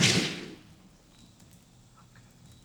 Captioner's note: fire crackling